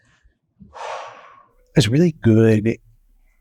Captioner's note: sighing